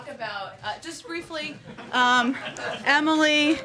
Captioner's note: laughter